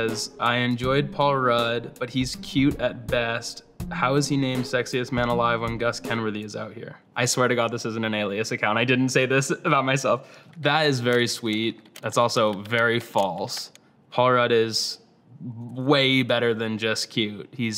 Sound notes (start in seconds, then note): 10.9 keyboard taps